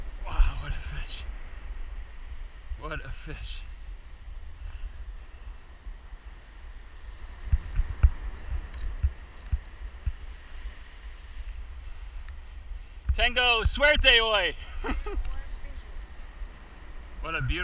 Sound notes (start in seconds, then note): 13.2 speaking in foreign language; 14.6 chuckles